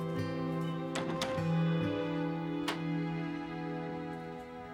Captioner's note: door clicks shut